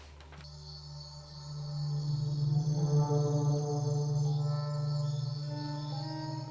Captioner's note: crickets chirping; foreboding music